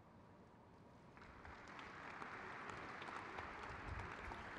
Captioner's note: crowd claps